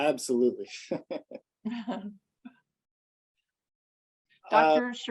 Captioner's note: laughs